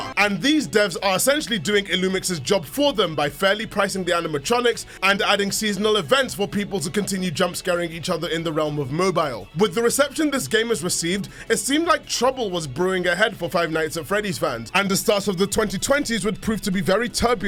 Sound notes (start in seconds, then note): none